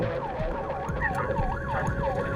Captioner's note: police siren